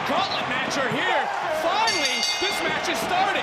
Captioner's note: bell rings